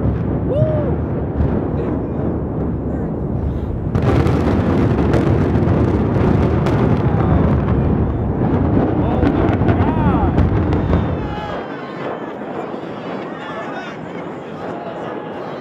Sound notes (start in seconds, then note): 4.2 implosion; 12.1 people yelling